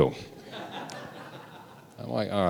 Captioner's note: audience laughing